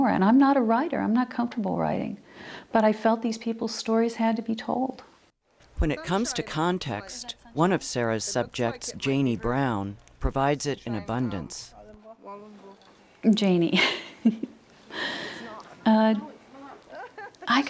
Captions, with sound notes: and I'm not a writer, I'm not comfortable writing but I felt these people's stories had to be told. - [Voiceover] When it comes to context, one of Sara's subject, Janie Brown, provides it in abundance. - Janie (chuckles).